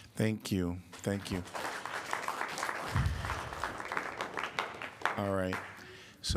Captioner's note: applause